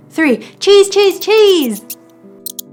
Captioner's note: mouse squeaking; slow music continues